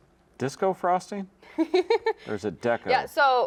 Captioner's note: laughs